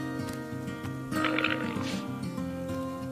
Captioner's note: bleating